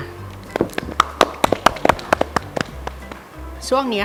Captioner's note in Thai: เสียงปรบมือ